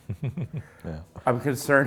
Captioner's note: chuckles